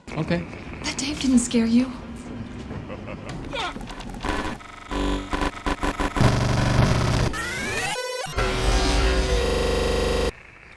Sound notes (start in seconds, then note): 2.5 Bowser laughs in the background; 4.8 jackhammers the floor